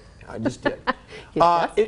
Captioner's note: chuckles